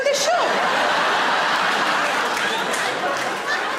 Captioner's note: audience laughs